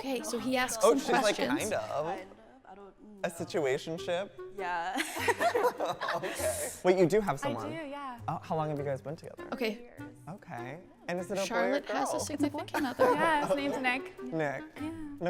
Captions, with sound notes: - Okay, so he asked some questions. - Like kind of? A situationship? - Yeah. (laughter) - Okay. Wait, you do have someone? - I do, yeah. - Oh, how long have you guys been together? - Okay. - Okay. And is it a boy or a girl? - Charlotte has a significant other. - Yeah, his name's Nick. - Nick? - Yeah.